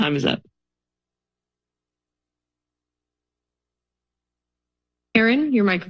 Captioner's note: silence